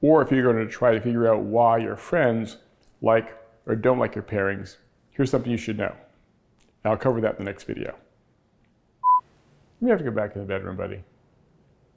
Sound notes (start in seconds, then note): 9.0 beep